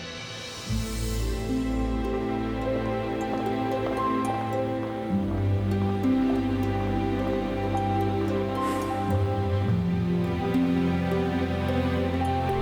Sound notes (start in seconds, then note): 0.1 soft tense music; 7.9 sighs